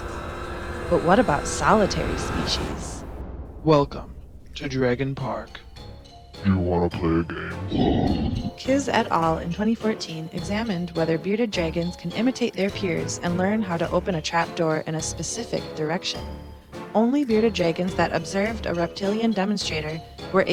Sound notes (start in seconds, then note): 3.5 deep voice